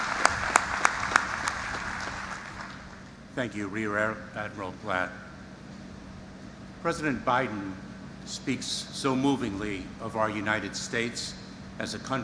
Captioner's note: applause